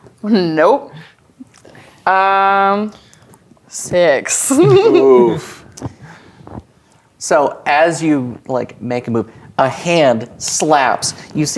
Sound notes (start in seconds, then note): 4.4 chuckles